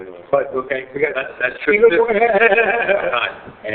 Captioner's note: laughing